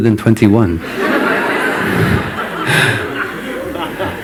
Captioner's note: laughter